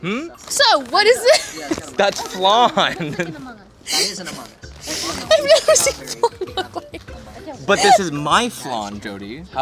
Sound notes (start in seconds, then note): 3.0 laughing